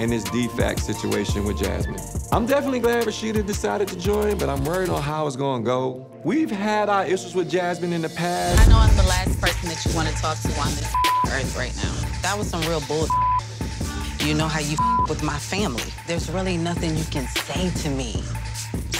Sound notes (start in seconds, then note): 10.9 beep; 13.0 beep